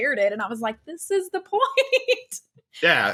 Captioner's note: laughs